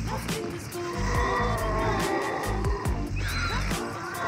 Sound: zombies scream

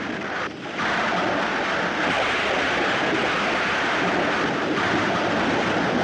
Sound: rain Pouring

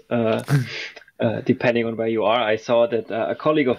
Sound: laughs

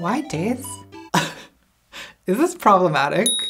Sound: laughs

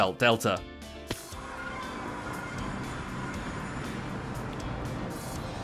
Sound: portal noises

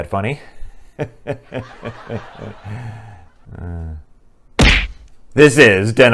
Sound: laughter

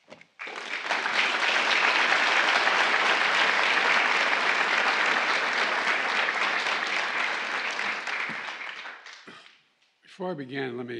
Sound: applause

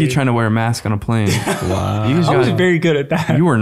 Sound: chuckles

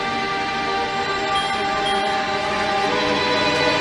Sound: answering machine keeps beeping

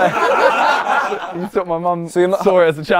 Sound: people laughing

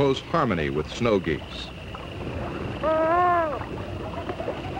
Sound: loon sounds

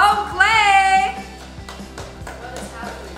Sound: claps

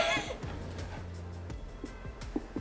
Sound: laughing

